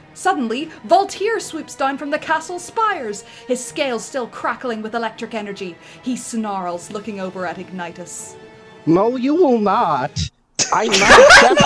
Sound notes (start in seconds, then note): 8.9 fruity voice; 10.6 laughter